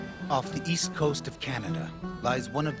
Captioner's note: voiceover